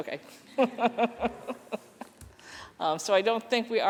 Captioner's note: laughter